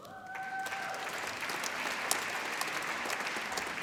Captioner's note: applause